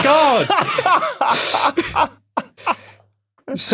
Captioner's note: guys laughing